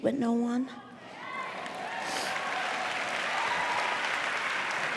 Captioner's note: cheering